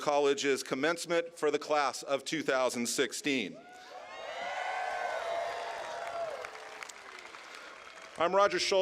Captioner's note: cheers